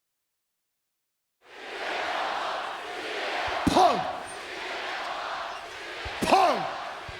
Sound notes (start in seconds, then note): 1.4 crowd chants "CM Punk"